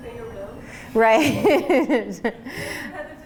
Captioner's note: laughing